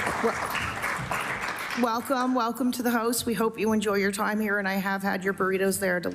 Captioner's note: applause